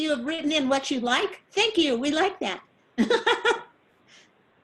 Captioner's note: laughs